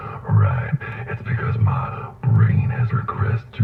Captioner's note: laughs